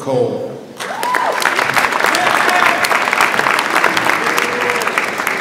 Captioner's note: audience applauds